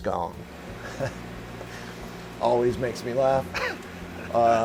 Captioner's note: chuckles